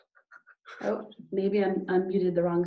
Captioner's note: giggling